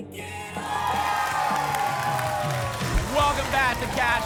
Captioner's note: applause and cheering